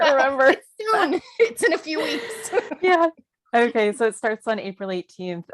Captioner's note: laughter